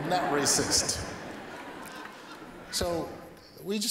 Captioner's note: laughter